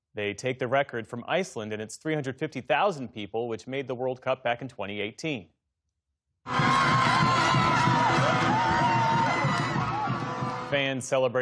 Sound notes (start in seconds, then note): 10.0 loud cheering